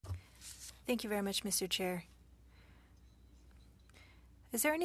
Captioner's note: speaking French